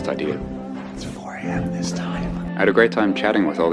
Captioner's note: whispering